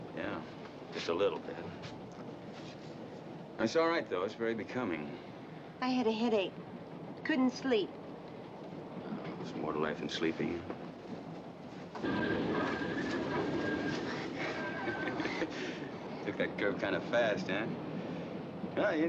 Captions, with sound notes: Yeah, just a little bit. It's all right though. It's very becoming. I had a headache. Couldn't sleep. Well, there's more to life than sleeping. [TRAIN SQUEAKING] Took that curve kind of fast, huh?